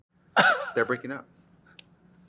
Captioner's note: Katya laughs